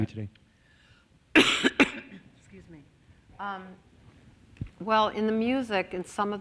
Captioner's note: coughs